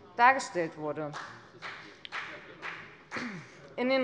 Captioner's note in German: Beifall bei der FDP